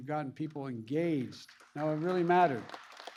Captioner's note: applause